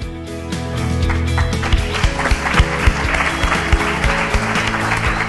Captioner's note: crowd clapping